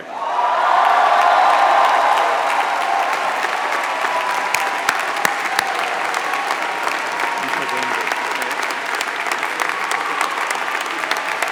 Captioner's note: applause